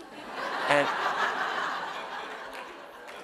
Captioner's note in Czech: Smích